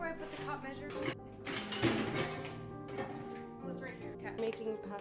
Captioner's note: clattering